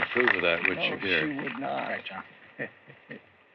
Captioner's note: chuckles